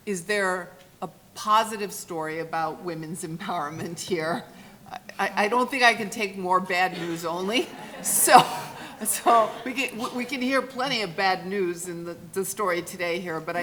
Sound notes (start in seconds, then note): 6.9 laughing